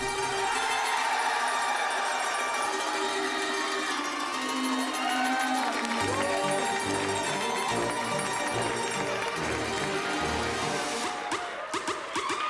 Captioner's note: cheers & applause